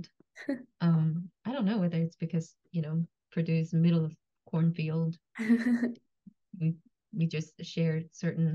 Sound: laughs

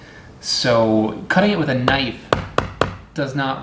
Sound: knife tapping

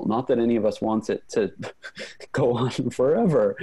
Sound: laughs

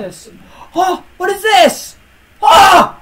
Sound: inhales

